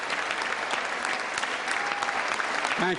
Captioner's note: applause